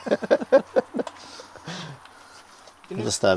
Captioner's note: laughter